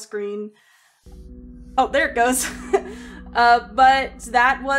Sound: laughs

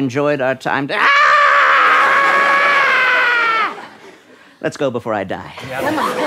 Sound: screams

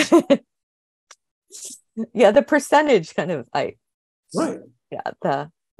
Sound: laughing

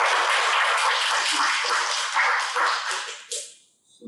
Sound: applause

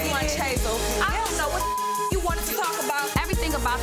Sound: beep

